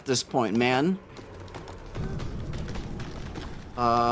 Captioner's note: trees cracking